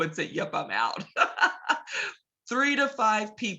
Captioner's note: laughs